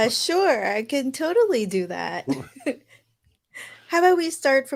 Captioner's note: laughs